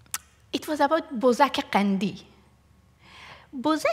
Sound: non-english

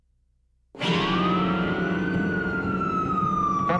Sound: siren wailing

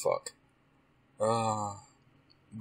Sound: groan

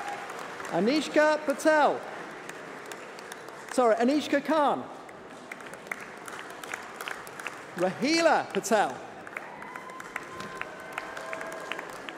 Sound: applause

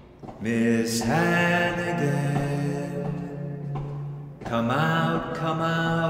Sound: pounding

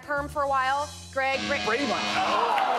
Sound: buzzer sounds

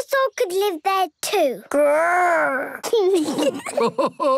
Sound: kids giggling; Grandpa laughing

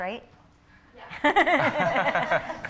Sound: laughter

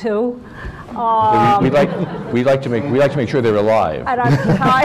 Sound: laughter; laughter

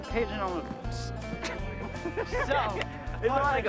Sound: laughs

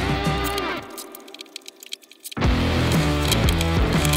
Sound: laces threading

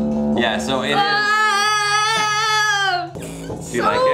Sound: yelling

